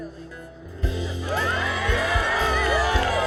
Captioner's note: cheering